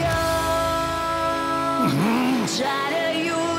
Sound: groaning

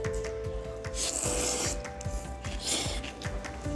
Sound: slurp

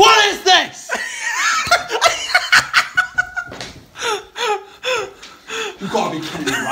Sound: laughing

